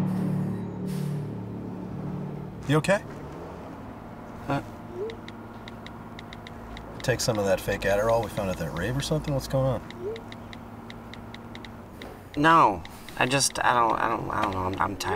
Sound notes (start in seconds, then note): 6.1 keyboard clicks on phone